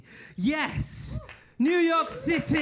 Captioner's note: audience cheering